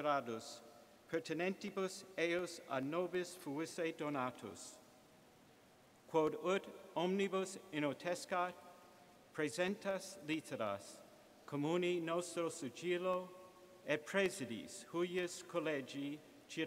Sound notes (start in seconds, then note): 4.8 reading latin